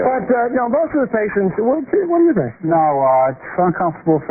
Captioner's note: laughter